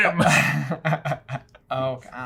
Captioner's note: laughing